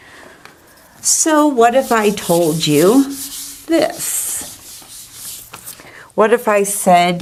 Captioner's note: eraser wiping board